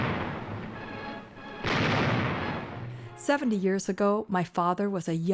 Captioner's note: bombs exploding